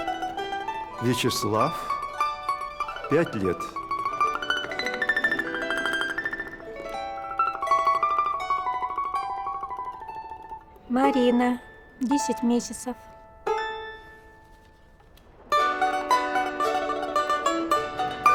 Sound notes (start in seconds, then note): 0.0 cheerful music; 0.9 the man speaks in russian; 3.8 cheerful music; 10.8 the woman speaks in russian; 13.3 cheerful music